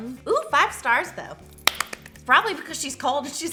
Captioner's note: claps